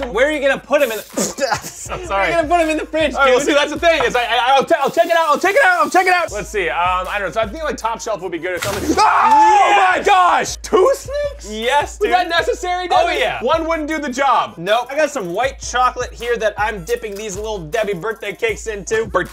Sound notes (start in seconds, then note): 8.8 screams